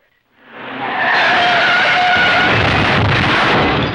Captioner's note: tires squealing; booming